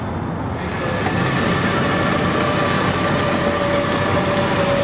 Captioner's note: engine revving